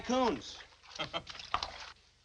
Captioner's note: chuckles